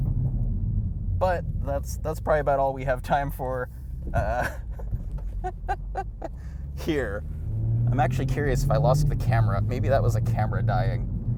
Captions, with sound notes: but that's probably about all we have time for (laughing) here. I'm actually curious if I lost the camera, maybe that was a camera dying.